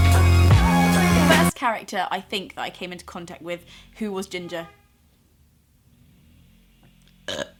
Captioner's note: cars toot in background